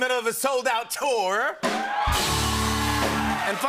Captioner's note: cheers and applause